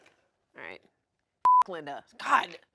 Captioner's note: beep